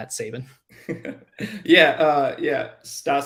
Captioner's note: laughs